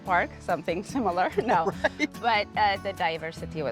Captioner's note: laughing